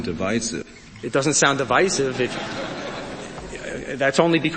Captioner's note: crowd laughs